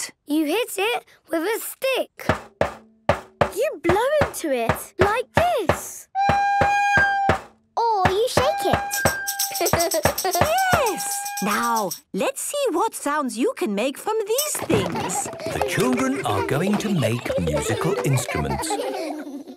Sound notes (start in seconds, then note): 6.1 recorder note plays; 8.9 rattling